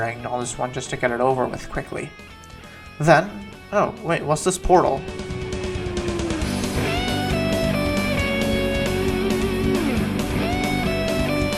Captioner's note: sighs